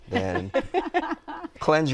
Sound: laughter

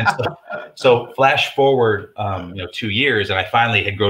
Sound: laughs

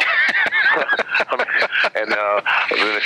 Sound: laughs

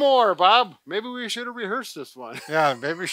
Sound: laughs

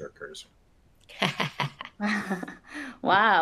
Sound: laughs

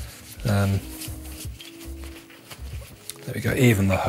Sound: wiping

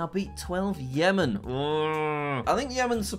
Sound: groans

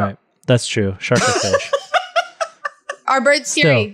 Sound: laughs

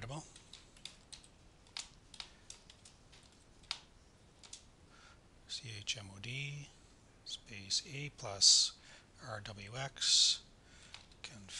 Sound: typing

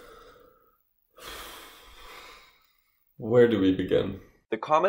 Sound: deep breath

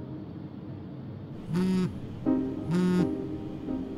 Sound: cell phone vibrating

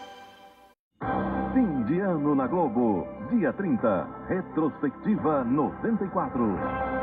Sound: man speaking portuguese

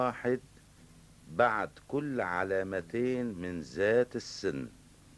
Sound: quavers

